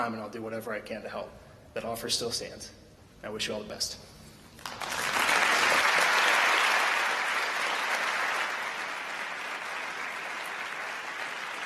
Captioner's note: applause